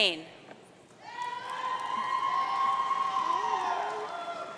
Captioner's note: audience cheering